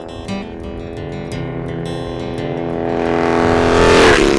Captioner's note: engine roaring